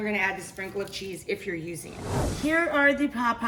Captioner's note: air whooshing